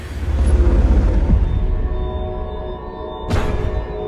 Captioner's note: metallic ambience